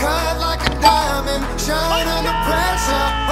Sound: chime dings

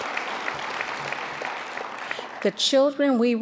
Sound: applause

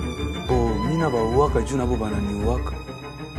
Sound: non-english speech

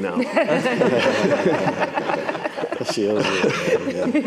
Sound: all laughing

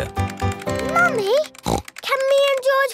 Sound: snorts

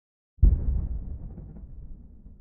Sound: faint boom

